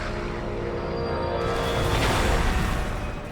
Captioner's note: explosion